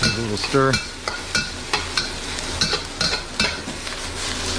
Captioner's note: food sizzling